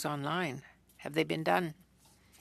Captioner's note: speaking French